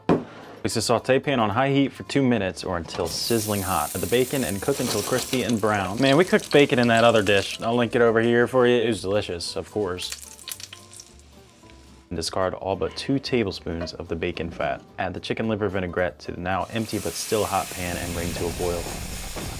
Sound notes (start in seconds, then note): 9.7 bacon popping and sizzling; 19.3 vinaigrette sizzling